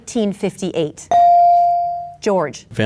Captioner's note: bell dings